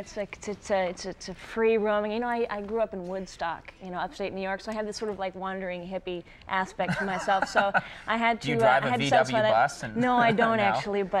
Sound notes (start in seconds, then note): 6.9 Conan laughs